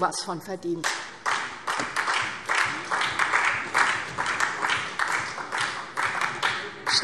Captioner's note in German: Beifall SPD und vereinzelt Freie Demokraten